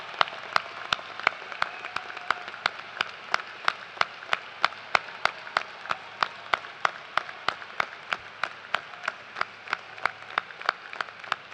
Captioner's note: cheers and applause